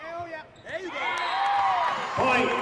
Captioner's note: cheering